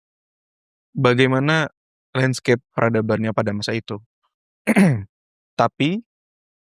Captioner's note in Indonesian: berdehem